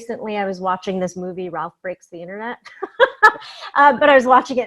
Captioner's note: laughs